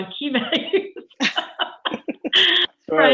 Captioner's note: laughter